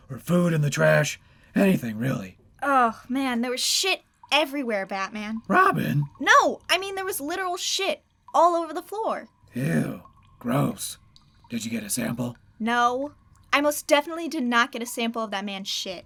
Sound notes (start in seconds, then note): none